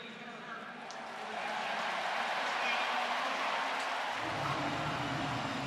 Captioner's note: referee call; cheers, applause